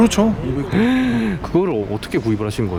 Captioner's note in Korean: 놀람